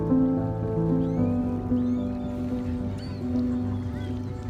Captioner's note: birds chirping